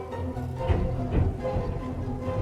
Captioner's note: more banging